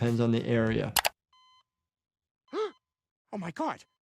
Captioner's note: beeping; gasps